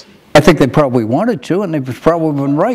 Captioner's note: none